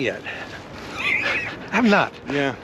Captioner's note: Paul laughs